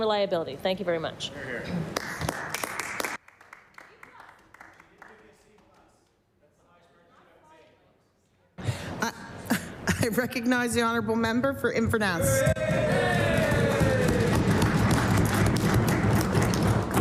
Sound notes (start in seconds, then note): 8.1 applause